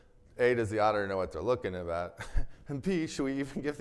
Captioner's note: chuckles